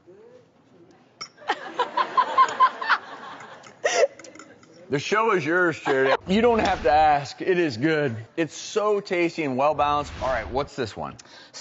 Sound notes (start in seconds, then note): 1.4 crowd laughs; 1.8 laughs